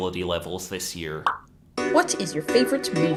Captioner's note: pop